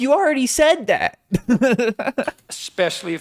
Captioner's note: laugh